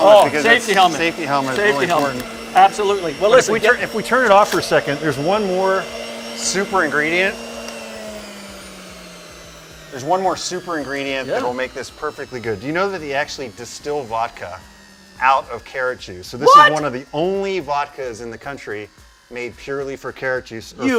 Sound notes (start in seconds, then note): 7.7 juicer motor fades to quiet